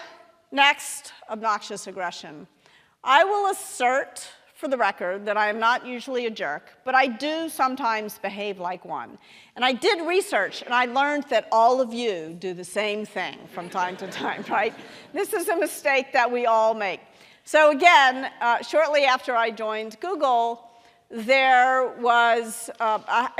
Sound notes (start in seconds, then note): 13.5 audience laughing